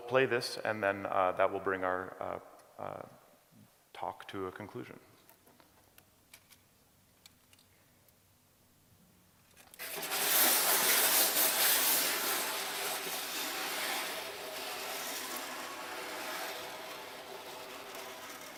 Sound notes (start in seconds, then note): 12.5 scratching